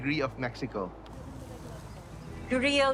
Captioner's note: grill crackling